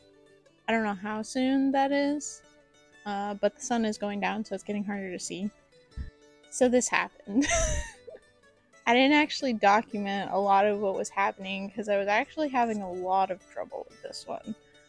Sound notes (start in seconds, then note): 7.3 laughter